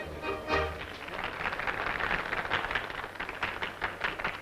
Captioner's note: applause